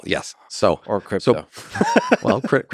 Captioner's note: laughs